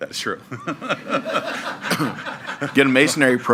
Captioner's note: group laughing